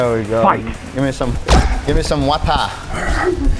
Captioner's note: kick thudding